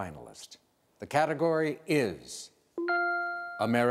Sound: dings

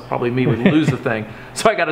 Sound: laughing

